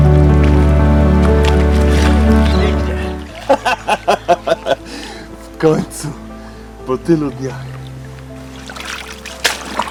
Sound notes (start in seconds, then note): 2.2 laughing